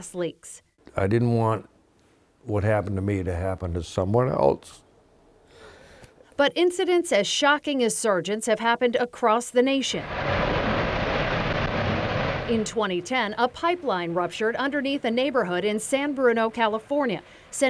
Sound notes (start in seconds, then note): 11.5 roaring fire